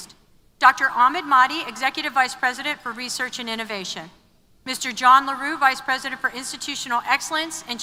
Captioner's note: none